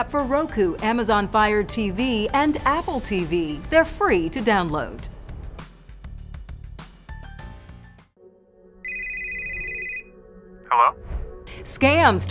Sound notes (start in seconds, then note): 5.7 bright music; 8.8 phone ringing